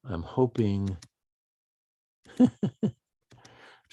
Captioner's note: keyboard typing; chuckles